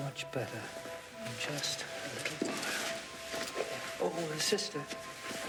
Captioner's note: sheets rustling